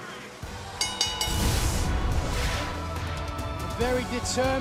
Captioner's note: bell ringing